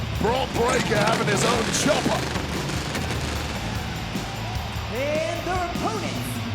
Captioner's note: engine rumbling